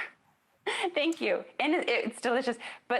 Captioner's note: giggles